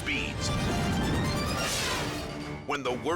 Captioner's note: scene swooshing